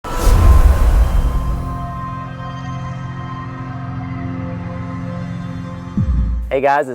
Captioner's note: sound effect